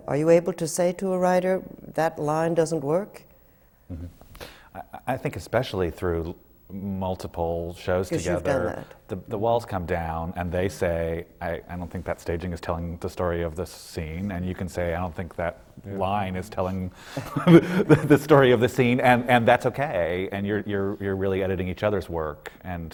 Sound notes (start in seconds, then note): 17.1 laughs